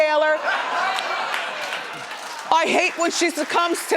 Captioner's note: laughs